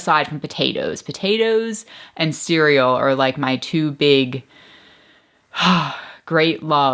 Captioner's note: sighs